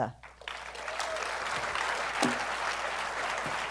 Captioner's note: applause